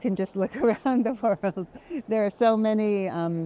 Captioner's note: chuckles